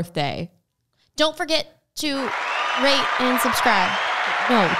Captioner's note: crowd cheering